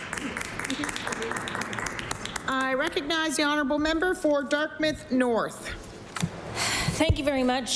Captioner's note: applause